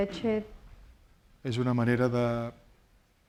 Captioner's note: speaking spanish